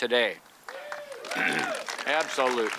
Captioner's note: audience claps and cheers